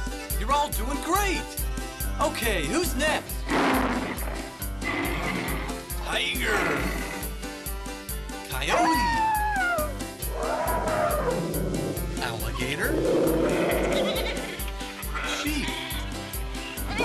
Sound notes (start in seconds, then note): 3.4 growls; 10.2 bellows; 10.2 howls; 13.6 bleats